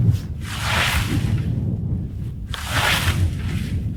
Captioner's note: scythe mowing